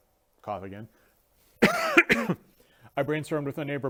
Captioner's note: cough cough